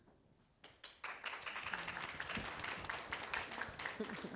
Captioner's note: clapping